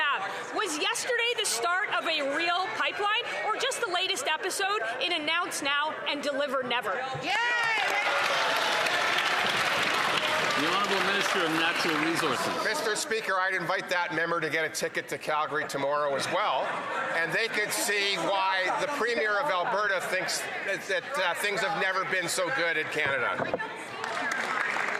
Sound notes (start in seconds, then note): 13.9 some Applause